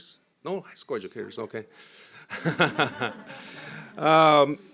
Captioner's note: laughs